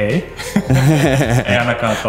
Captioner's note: laughter